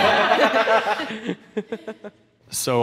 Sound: laughing

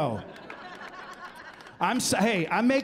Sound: laughter

